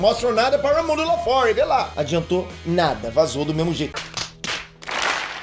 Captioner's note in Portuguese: sotaque americano